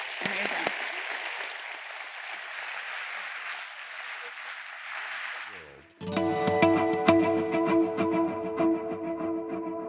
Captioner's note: applause